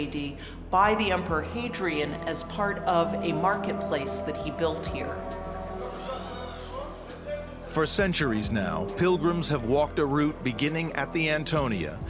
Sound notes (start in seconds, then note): 5.0 man talking in native language